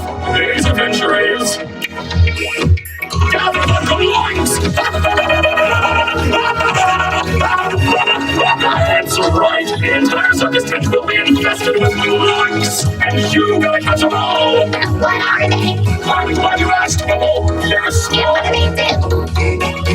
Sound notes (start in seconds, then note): 4.6 cackling maniacally